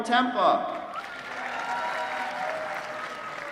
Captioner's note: applause